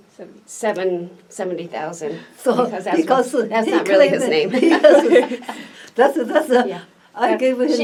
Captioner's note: all laugh